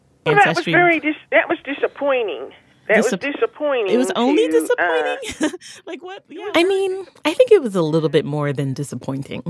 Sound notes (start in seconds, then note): 4.3 laughs